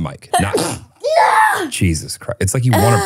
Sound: sneezes

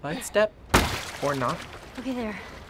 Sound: water splashes loudly

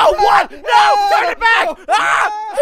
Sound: screams

